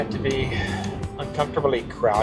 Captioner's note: sighs